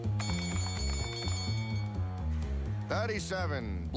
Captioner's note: ding ding ding